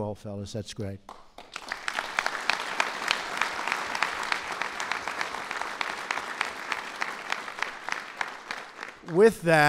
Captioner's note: applause